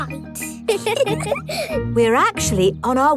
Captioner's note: both giggle